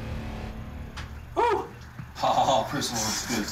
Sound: chuckling

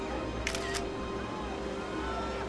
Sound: camera shutter

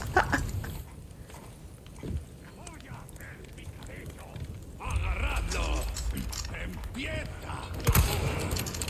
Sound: laugh

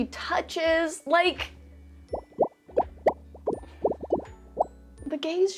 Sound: hearts popping

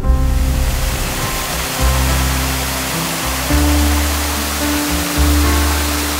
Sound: drone

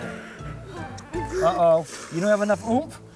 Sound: breathing heavily

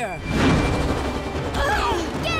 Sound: grunting

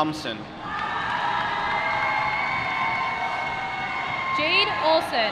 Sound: applause

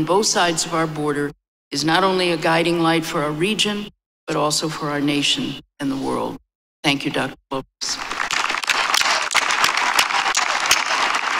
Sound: applause

